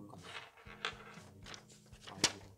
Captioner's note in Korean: 펜 굴러가는 소리